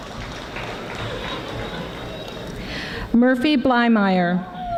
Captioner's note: audience applauding softly